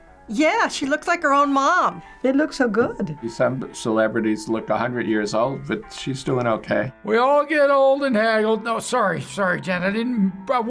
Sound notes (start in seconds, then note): none